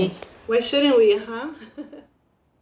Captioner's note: chuckles